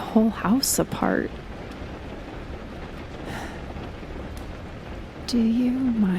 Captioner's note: she sighs